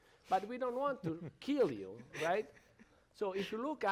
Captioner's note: panelists chuckle